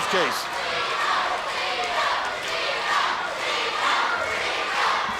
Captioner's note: crowd cheering